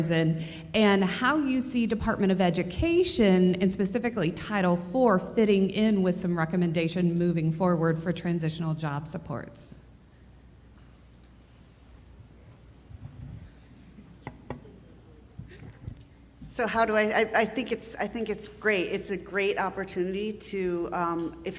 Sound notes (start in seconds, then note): none